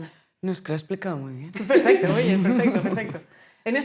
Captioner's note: laughing